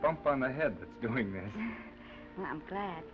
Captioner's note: Esther laughs